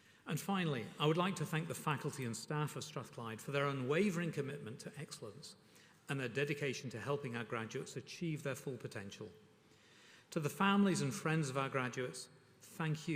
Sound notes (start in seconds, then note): none